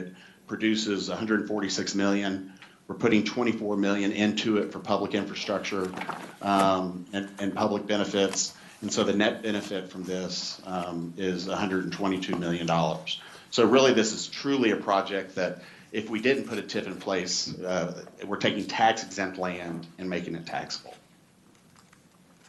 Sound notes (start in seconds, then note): 7.2 rustling of papers